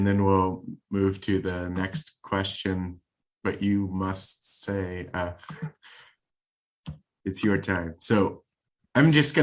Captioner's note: laugh